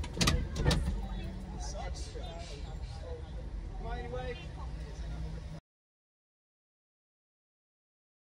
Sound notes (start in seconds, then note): 5.5 ambience cuts